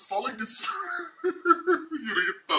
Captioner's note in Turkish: Hunharca gülme